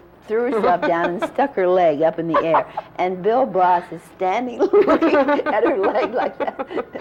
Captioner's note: laughter